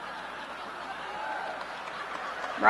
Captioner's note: laughter